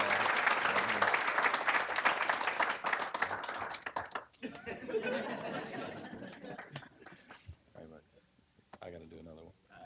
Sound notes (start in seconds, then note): 0.0 applause; 4.4 audience laughing